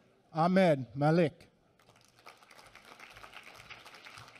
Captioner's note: applause